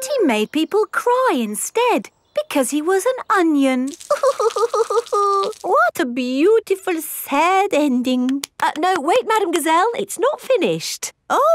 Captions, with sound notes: But he made people cry instead, because he was an onion. (CRYING) What a beautiful, sad ending! No, wait, Madame Gazelle, it's not finished.